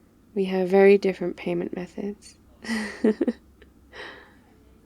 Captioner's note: laughs